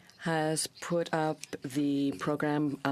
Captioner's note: speaking french